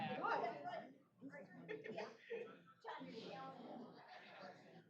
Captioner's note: off-mic chatter